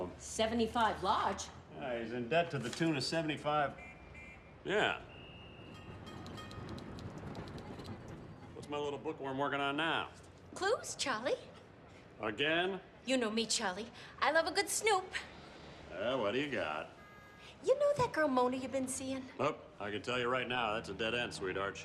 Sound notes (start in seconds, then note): 5.1 traffic roaring outside